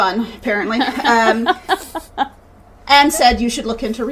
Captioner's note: laughing